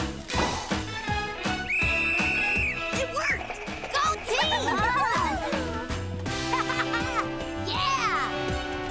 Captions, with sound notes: (whistling) It worked! Go team! (cheering) (laughing) Yeah!